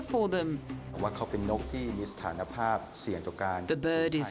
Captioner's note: speaks foreign language